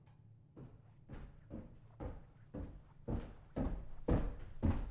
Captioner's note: footsteps thumping